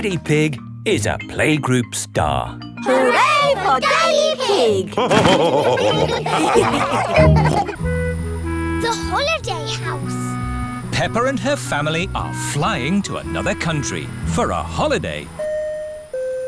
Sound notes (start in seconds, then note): 4.8 all laughing